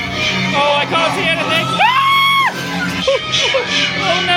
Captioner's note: screaming; screams; yelps